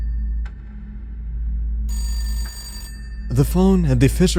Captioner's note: phone ringing